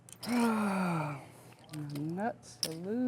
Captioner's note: sighing